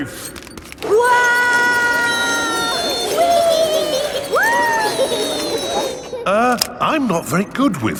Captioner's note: all yelling